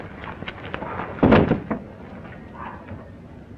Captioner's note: thuds; dog barking